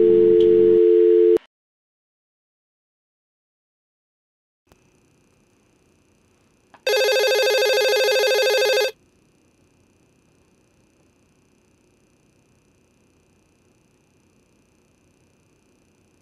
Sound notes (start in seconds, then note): 6.8 phone rings